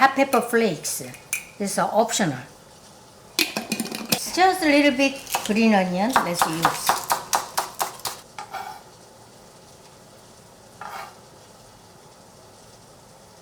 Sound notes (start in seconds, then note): 7.1 knife chopping; 9.1 knife scraping